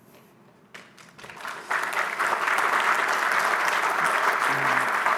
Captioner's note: applause